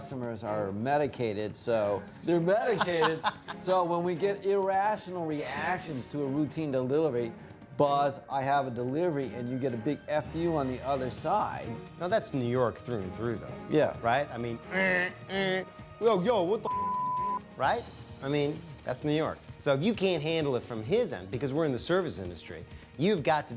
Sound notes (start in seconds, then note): 16.7 imitates buzzer